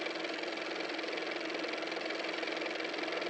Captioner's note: car motor